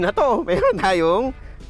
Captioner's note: chuckles